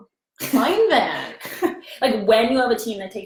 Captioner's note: both laughing